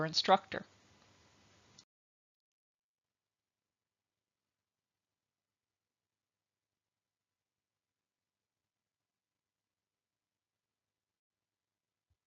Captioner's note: silence